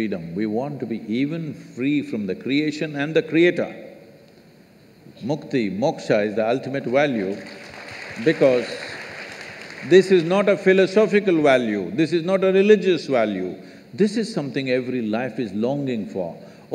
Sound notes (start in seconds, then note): 7.2 applause